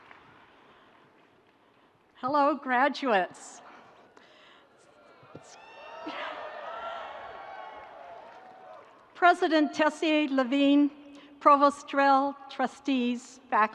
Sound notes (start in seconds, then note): 5.4 audience cheering